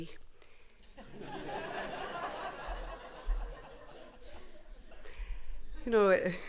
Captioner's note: laughter